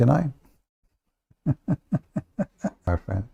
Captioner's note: Ketawa